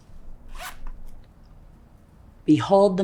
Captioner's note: zipper clattering